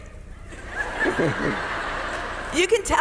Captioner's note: audience members laughing